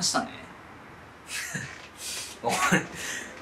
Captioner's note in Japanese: 笑う